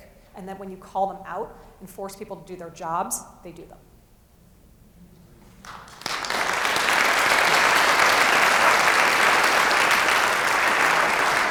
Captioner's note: applause